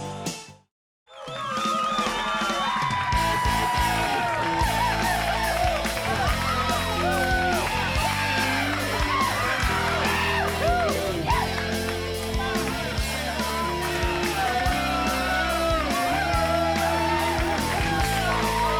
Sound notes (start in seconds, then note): 1.5 upbeat music; 5.9 audience applauds; 13.7 upbeat music